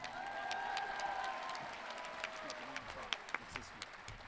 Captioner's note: audience cheering